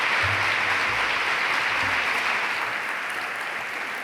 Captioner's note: applause